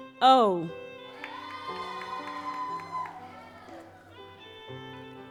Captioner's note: audience applauds